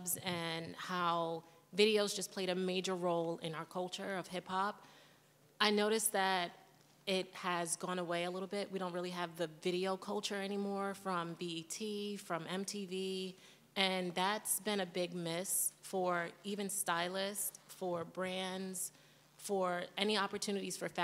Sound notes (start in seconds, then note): none